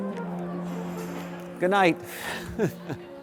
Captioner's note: laughing